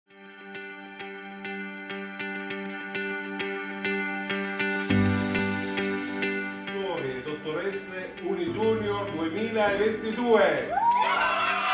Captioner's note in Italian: Applauso